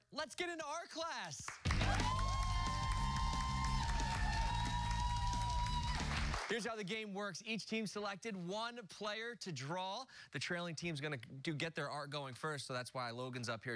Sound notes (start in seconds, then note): 1.5 cheers and applause